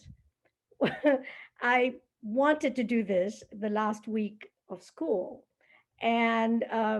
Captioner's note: laughter